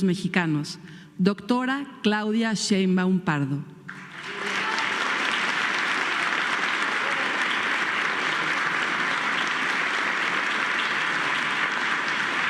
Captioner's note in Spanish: aplausos